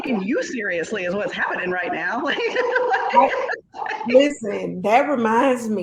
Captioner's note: laughing